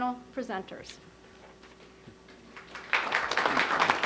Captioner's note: applause